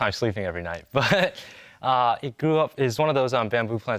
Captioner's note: laughs